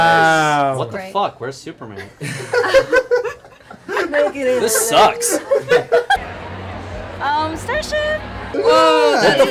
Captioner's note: laughter